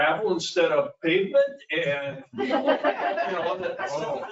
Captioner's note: people laugh